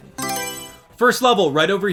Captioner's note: Mario Selection Sound